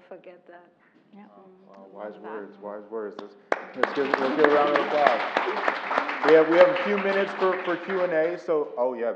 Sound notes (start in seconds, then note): 3.5 applause